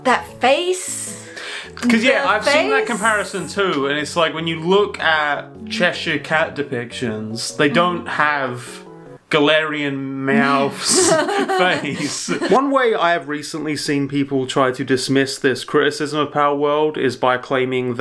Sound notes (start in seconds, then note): 10.3 laughs